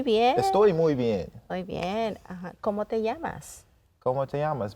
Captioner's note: speaking in Spanish